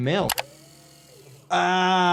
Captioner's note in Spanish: clics del ratón